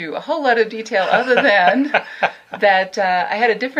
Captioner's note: laughs